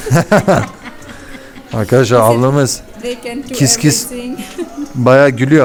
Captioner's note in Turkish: kahkaha